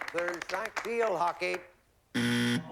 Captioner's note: buzzer